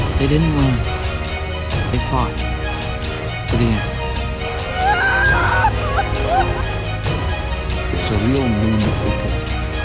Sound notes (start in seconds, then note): 4.6 Janai wailing